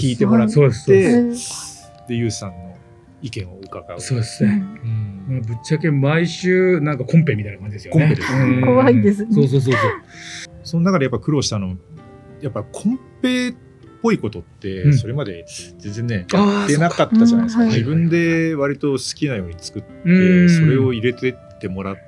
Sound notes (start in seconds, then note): 7.9 laughs